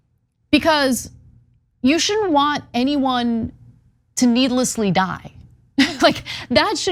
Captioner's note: laugh